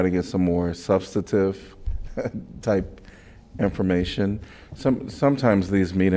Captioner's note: laughter